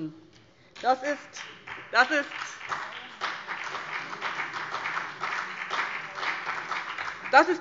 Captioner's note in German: Beifall BÜNDNIS 90/DIE GRÜNEN und vereinzelt SPD